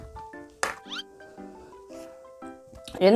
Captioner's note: sniffing